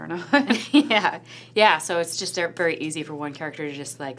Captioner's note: laughs